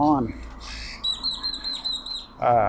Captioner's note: birds chirping